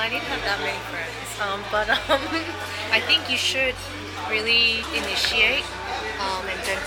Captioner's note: giggles